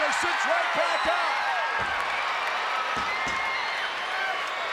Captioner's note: audience cheers